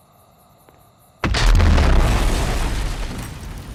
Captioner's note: bomb explosion